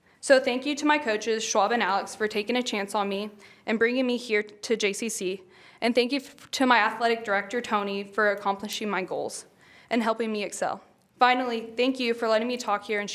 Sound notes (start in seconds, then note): none